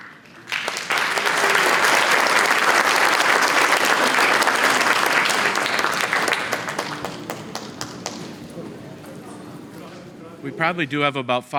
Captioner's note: applause